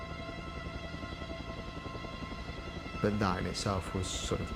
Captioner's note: helicopter blades whirring